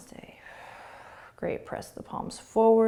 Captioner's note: exhaling